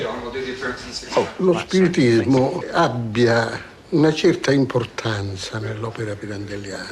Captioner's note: speaking italian